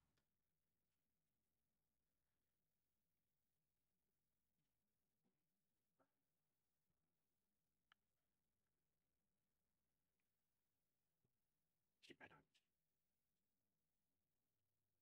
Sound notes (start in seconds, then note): 0.9 silence